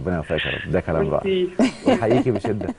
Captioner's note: laughter